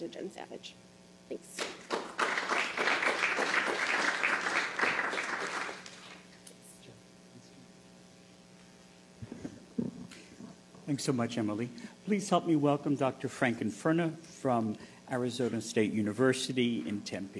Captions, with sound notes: CO-AUTHORS AND PI BURCH AND MY SUPERVISOR. [APPLAUSE] >> THANKS SO MUCH, EMILY.